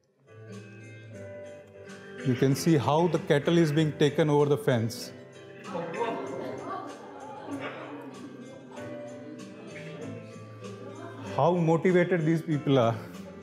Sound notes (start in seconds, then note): 0.8 upbeat music; 5.6 students gasping